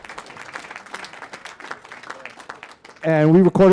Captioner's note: applause